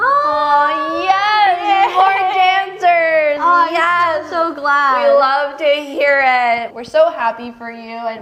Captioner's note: happy noises